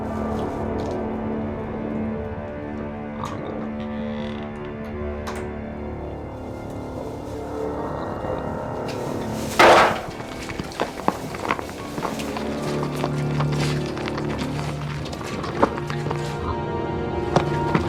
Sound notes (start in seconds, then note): 8.9 metal clanging; 11.0 crunching; 14.3 tense orchestral music